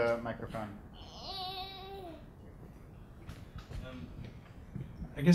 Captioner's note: baby whimpering